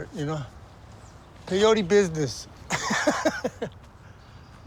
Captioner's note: laughs